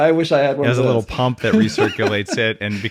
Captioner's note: chuckling